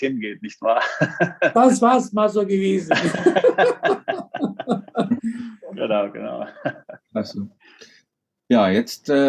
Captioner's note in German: Alle lachen